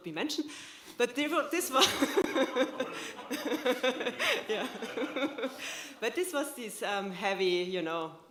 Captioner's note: laughter